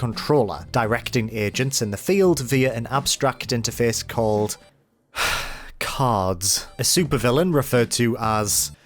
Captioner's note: sigh